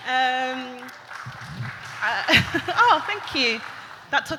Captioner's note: claps